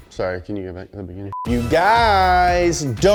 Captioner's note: video beeping